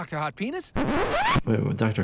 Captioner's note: record scratches